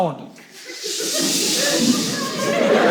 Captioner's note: audience chh chh's